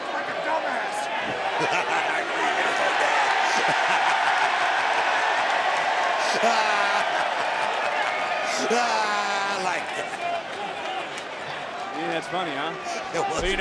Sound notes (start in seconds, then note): 1.2 laughs; 4.0 Booker continues laughing; 4.0 crowd cheers